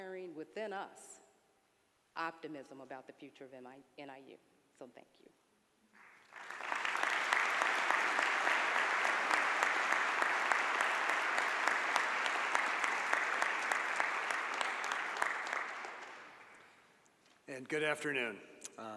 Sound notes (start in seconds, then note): 6.0 audience applause